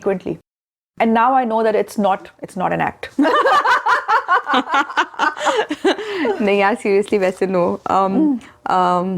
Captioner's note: both laugh together